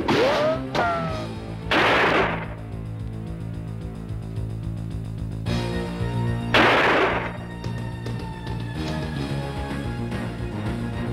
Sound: gunshots

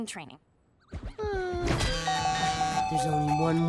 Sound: buzzing, chiming

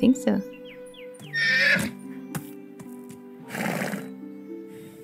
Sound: horse neighs, snorts and stomps

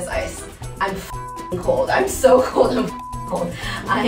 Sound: beep

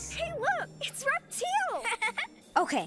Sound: giggling

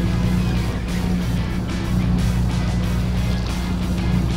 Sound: boat engine revving

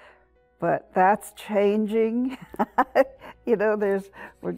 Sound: laughs

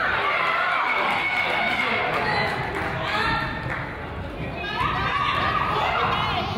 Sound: crowd applauds; coach yells

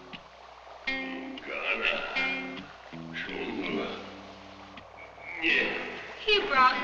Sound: speaking in a foreign language

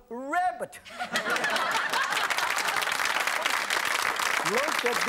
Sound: audience laughing and clapping

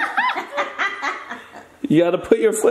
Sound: laughing

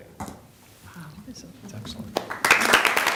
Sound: applause

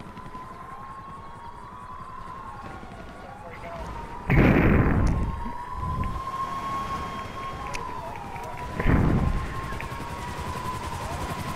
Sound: sirens

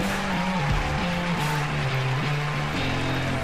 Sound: crowd cheering

